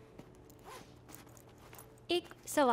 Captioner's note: Unzips